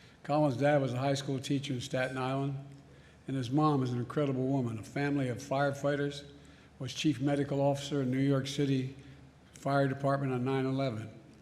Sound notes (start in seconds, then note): none